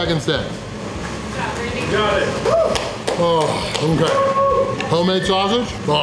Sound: crowd

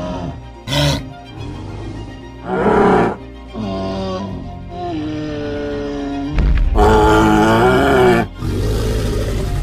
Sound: triceratops sounds

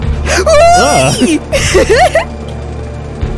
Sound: giggles

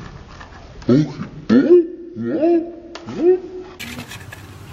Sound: slow motion shouting

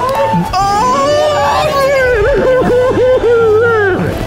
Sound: all exclaiming

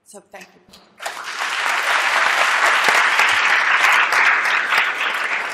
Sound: applause

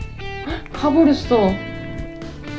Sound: gasp

